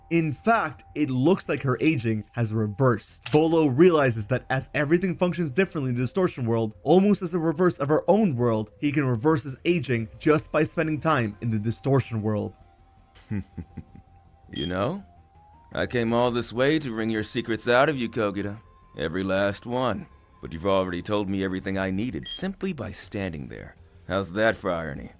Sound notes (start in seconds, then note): 13.2 laughs